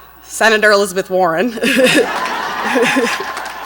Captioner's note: laughs; audience laughs and applauds